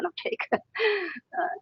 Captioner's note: laughs